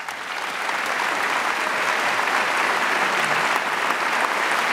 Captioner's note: audience applauds